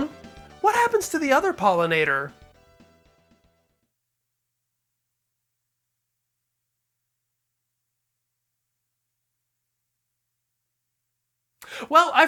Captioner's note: long pause